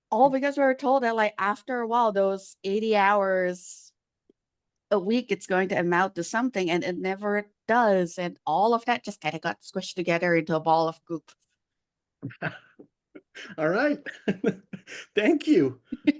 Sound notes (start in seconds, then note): 13.2 laughing; 13.2 laughs